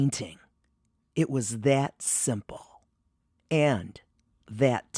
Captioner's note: pause